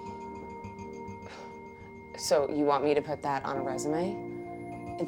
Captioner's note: scoffs